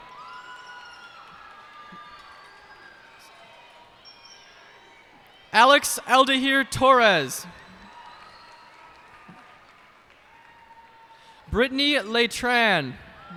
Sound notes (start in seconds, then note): 0.2 cheers and applause; 7.9 cheers and applause